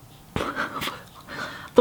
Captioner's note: laughs